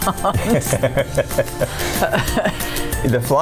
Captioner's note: laughing